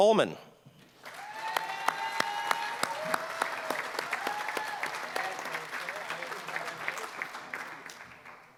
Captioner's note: applause